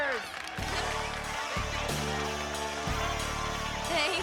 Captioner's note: crowd cheering